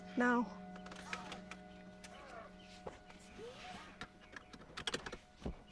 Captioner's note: seat belts rustle and click